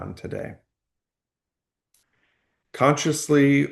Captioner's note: pause